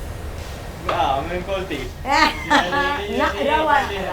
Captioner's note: laughs